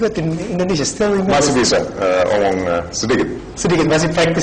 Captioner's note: non-english speech